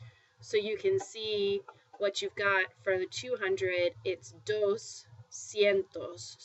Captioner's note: spanish